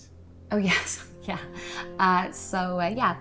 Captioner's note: chuckles